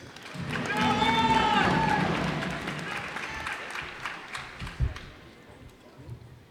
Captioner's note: cheers and applause